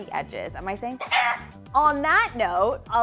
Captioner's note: rooster crows